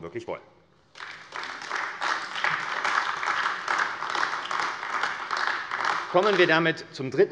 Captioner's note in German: Beifall AfD